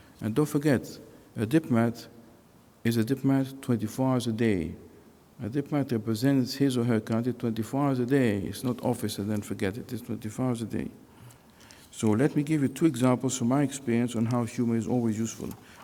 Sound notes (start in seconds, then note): none